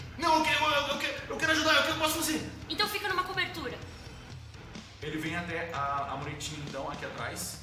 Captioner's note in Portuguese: none